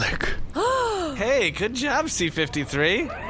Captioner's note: gasps